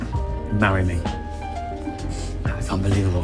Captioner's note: laughs